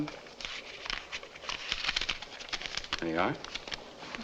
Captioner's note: paper rustling